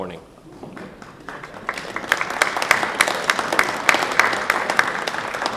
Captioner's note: crowd applauding